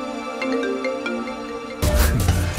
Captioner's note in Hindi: फोन की घंटी बजना